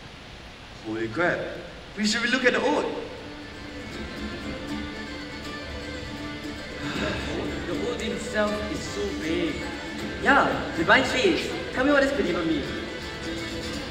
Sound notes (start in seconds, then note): 6.8 sigh